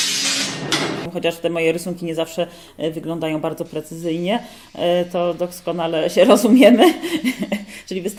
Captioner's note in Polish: śmiech